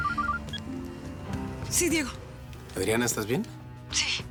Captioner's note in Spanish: suena el celular